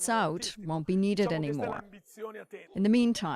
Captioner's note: speaking alternate language